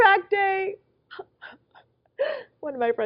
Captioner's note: sobbing